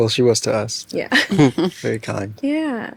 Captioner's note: laughs